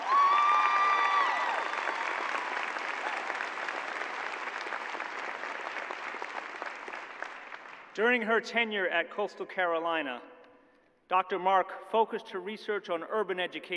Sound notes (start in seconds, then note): 3.2 cheers and applause